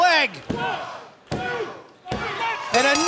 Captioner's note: crowd cheering; bell ringing